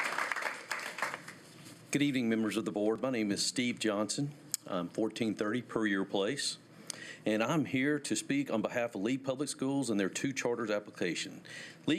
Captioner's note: applause